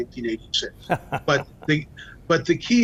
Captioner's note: laughing